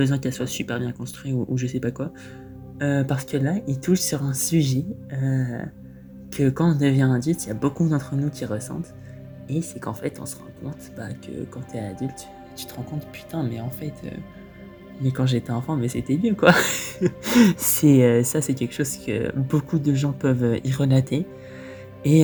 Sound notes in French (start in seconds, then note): 16.5 haha